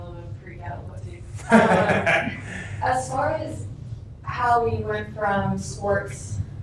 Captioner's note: laughter